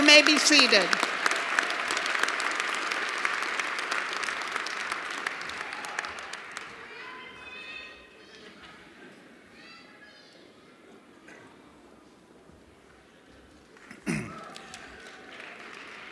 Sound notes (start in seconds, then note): 4.2 cheers and applause